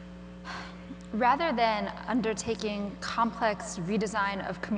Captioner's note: sighs